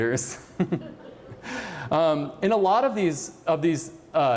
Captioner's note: laughter